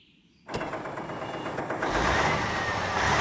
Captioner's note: engines Starting